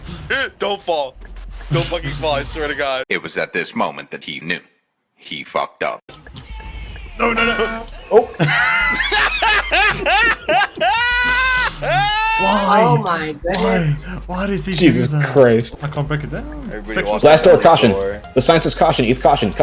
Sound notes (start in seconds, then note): 7.3 cartoon Mallet SFX; 8.0 laughs out loud